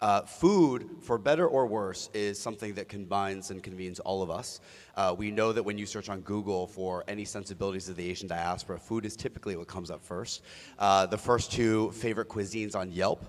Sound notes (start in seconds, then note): none